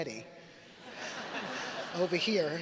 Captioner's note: audience laughing